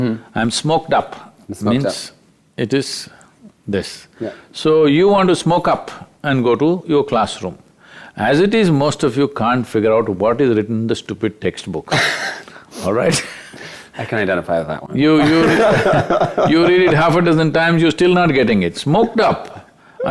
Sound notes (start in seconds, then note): 11.9 both Laugh; 15.2 laughs